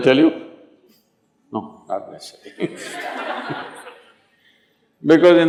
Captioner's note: laughter